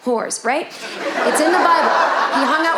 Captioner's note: audience laughing